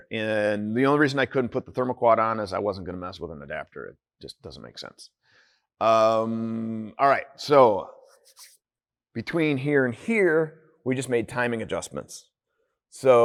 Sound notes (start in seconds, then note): none